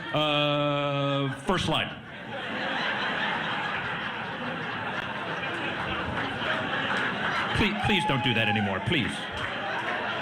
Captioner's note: laughter